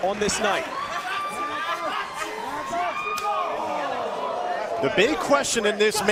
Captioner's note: crowd cheering